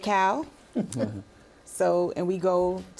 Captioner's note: chuckling